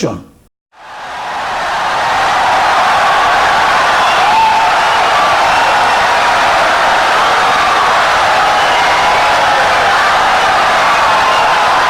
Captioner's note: wild applause and cheering for 17 seconds